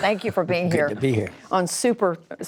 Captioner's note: laughter